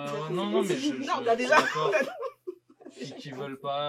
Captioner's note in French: rires